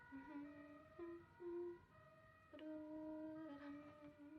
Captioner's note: humming